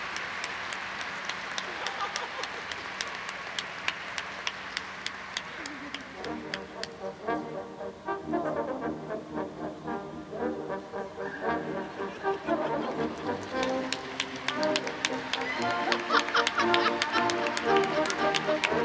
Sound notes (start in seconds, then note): 8.0 uptempo music; 11.2 audience laughs; 14.9 audience applauds